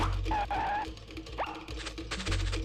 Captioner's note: skidding